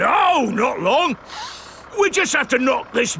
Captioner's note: sniffs